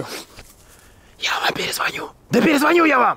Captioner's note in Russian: шёпотом